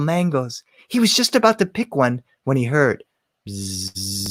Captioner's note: buzzing